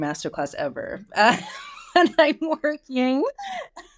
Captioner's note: laughs